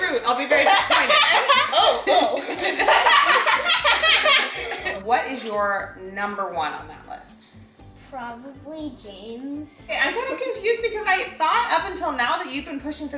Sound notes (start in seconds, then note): 2.5 family laughing